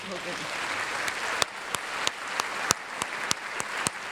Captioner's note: applause